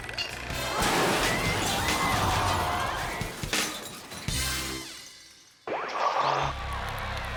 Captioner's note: people exclaiming; sculpture thuds